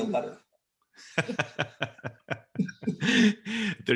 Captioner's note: all laughing